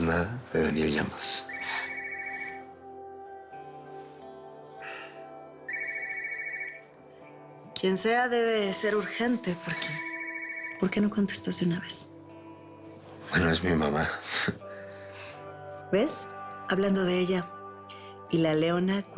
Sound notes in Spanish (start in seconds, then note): 2.7 Suena el celular